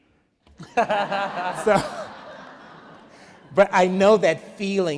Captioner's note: laughs